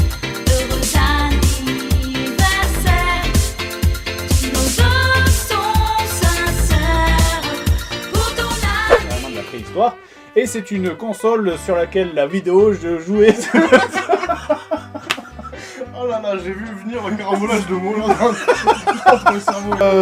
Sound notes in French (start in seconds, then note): 13.2 rires; 17.1 rires; 19.7 voix commentateur